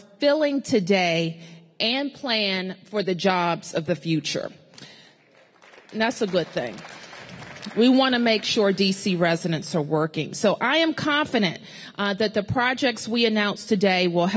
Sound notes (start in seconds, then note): 5.0 applause